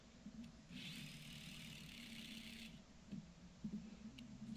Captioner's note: drill running